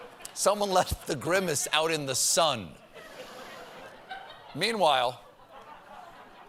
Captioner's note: laughter